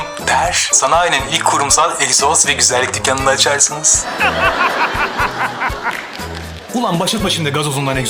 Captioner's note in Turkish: kahkaha